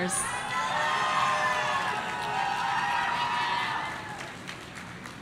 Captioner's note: people shouting